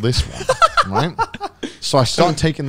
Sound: laughing

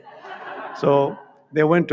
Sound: audience laughs

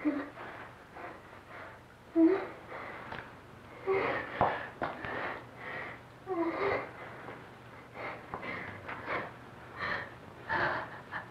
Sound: gasping and writhing around

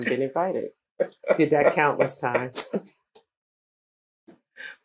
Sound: laughter

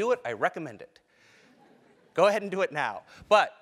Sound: laugh

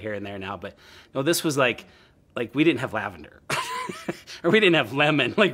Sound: laughs

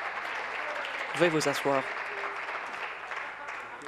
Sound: applause

